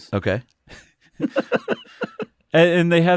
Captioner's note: laughs